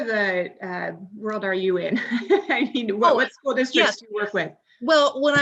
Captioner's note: laughs